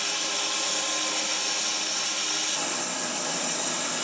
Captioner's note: saw whirring